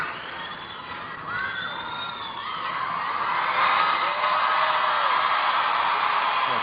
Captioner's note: cheers and applause